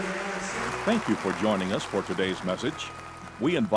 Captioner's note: voice-over